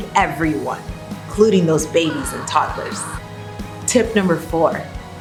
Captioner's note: loud scream